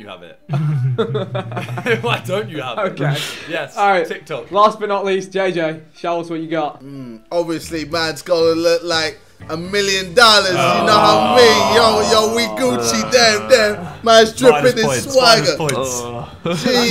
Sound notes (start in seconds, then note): 0.5 laughing; 10.5 everyone booing